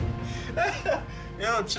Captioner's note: laughs